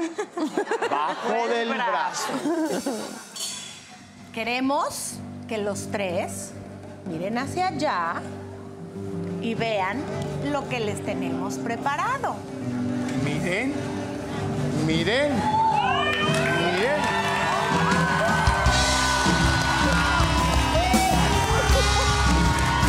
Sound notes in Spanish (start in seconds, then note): 2.3 Risas; 15.1 Gritos; 15.8 Aplausos